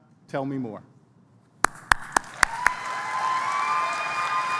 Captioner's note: applause